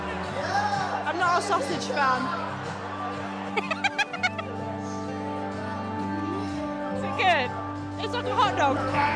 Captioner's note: laughing